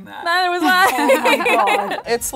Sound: laughs

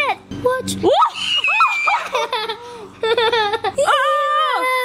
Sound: screaming

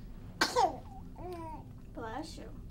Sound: baby sneezes

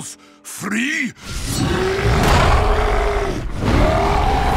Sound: roaring; screaming

